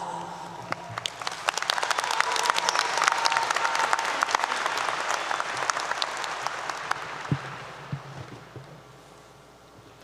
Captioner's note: applause 👏 👏